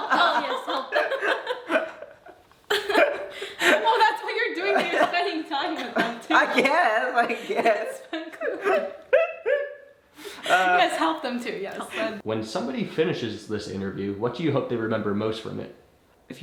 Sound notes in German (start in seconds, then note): 0.0 Geschwister lachen; 9.4 lacht